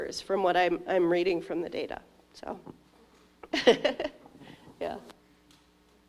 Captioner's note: laughs